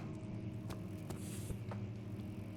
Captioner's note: soft shuffle